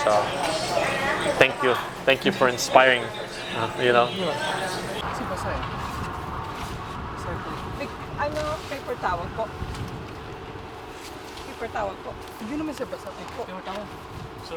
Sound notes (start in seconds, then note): 5.3 crew chattering; 11.6 speaking in foreign language